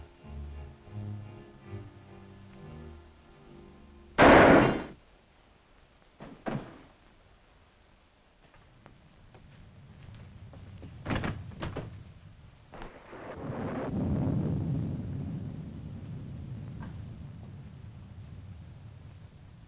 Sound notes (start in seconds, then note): 4.2 shot firing; 6.2 Mike thuds; 9.2 thunder rumbling